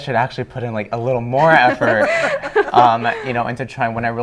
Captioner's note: laughing